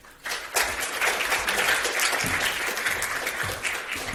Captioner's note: applause